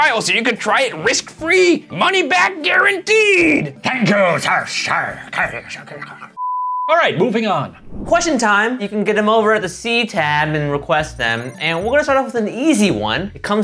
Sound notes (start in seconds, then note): 6.4 beeping